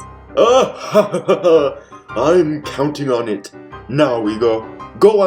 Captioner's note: evil laughter